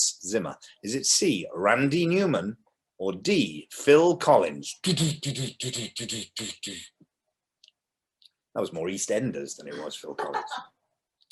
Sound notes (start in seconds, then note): 4.8 does an impression of the drum solo; 9.8 laughs